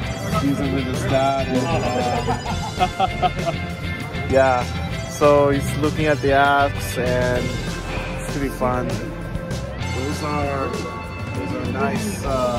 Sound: laughs

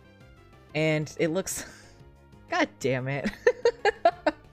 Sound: laughs

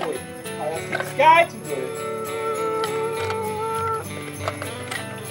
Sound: mimics car engine

